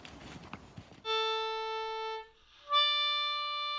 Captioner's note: the post horn sounds